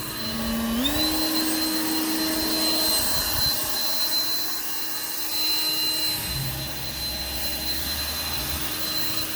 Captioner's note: blower Machine Noise